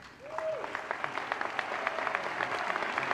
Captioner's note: applause